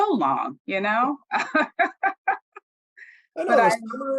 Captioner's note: laughs